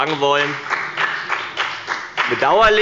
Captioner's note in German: Beifall bei dem BÜNDNIS 90/ DIE GRÜNEN